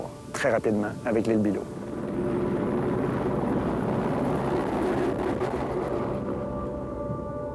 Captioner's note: helicopter sounds